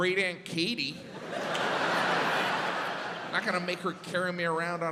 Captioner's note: audience laughs